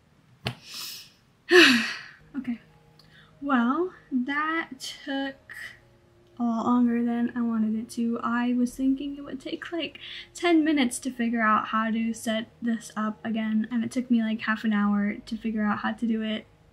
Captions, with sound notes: *sigh* Okay. Well, that took a lot longer than I wanted it to. I was thinking it would take like 10 minutes to figure out how to set this up again, and it took me like half an hour to figure out how to do it...